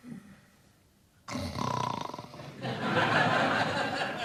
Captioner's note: snoring